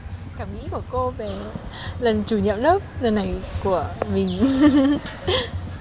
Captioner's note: laughs